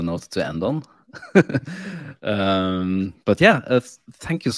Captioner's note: laughing